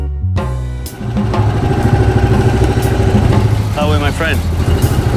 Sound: boat groaning

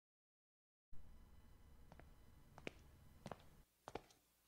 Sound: footsteps click quietly as they move down the hallway towards your room

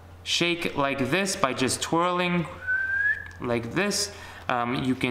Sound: whistles

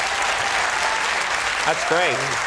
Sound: audience applauds

